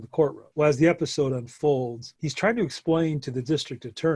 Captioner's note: none